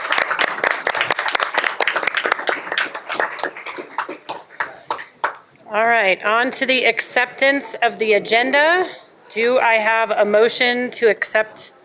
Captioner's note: applause